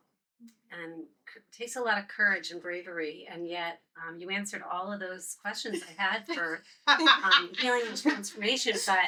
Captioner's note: laughter